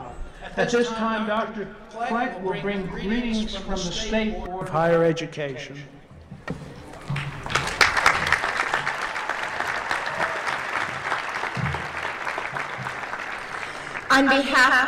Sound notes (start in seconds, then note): 6.9 applause